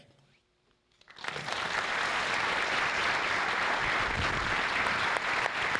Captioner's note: audience clapping